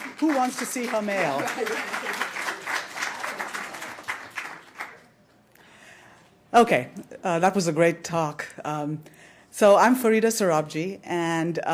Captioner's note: applause